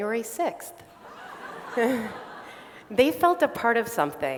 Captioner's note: laughter